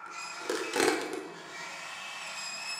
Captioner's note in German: Schleifendes Geräusch